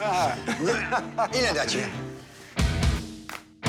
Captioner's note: laughter